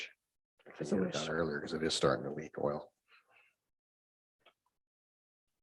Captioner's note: speaks faintly